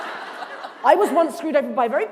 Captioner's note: laughter